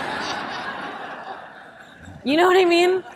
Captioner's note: audience laughing